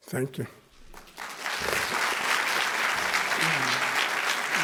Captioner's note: applause